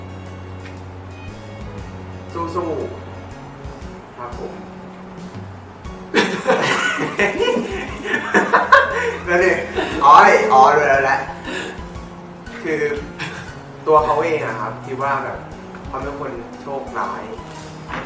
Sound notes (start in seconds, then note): 6.1 laughs; 12.9 stifled laughed